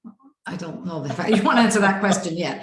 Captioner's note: chuckles